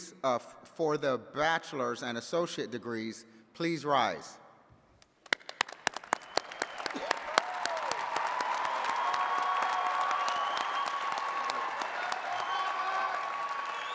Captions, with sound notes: for the bachelor's and associate degrees, please rise. (attendees cheering and clapping)